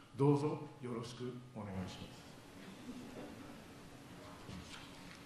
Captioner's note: speaking foreign language